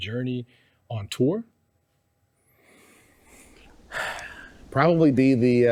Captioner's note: sighs